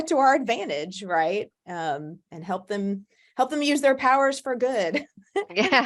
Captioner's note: laughs